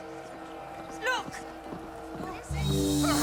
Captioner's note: horse approaching